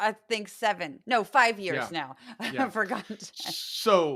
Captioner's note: laugh